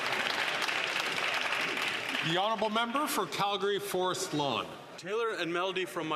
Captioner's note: some Applause